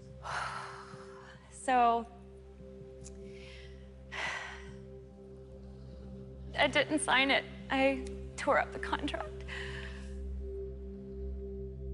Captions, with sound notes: [exhales] So... [sighs] I didn't sign it. I tore up the contract. - Okay.